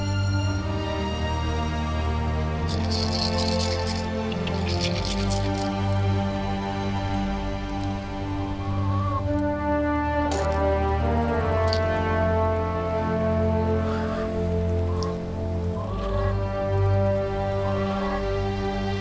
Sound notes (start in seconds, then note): 2.6 seeds rattling; 8.4 chickens clucking